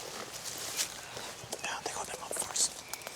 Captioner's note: whispering